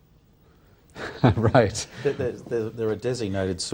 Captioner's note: laughs